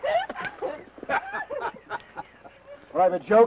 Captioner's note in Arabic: ثيودور يضحك; تضحك لورا